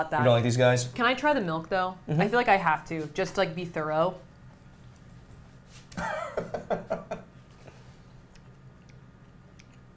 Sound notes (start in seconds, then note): 5.9 laughing